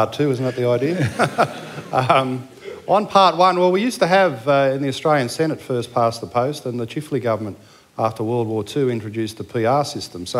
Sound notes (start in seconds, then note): 0.9 laughter